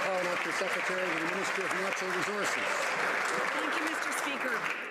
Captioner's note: some Applause